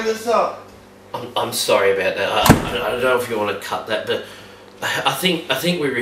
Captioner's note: door slams